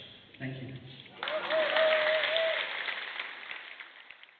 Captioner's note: applause, then fades out